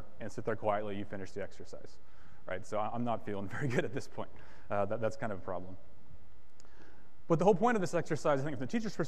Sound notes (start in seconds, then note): 3.5 chuckles